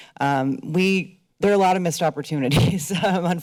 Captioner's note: laughs